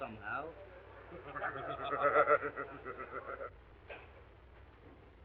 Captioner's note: members laughing